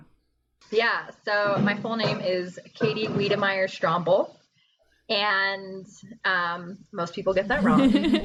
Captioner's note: laughter